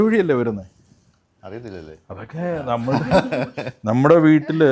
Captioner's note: laughter